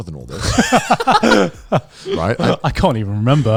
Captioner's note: laughing